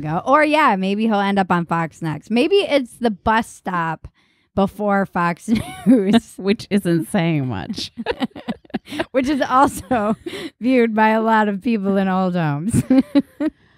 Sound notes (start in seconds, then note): 7.7 laughing